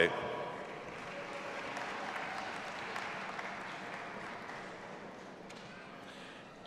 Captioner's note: audience applauding and cheering